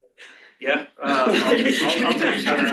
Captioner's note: laughter